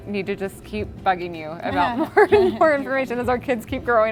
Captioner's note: laughs